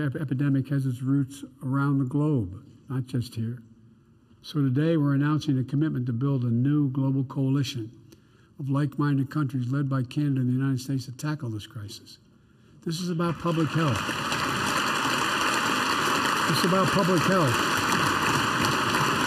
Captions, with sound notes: epidemic has its roots around the globe, not just here. So today we're announcing a commitment to build a new global coalition of likeminded countries, led by Canada and the United States, to tackle this crisis. This is about public health. (Applause.) This is about public health.